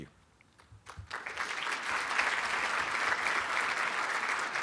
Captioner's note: applauding